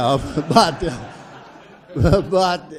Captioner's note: audience laughs